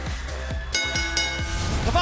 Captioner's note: bell